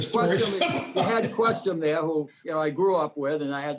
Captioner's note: laughs